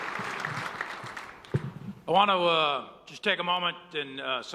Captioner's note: applause